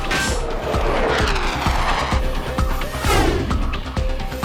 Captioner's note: aircraft engine roaring